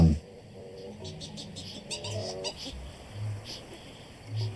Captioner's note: kākāpō vocalising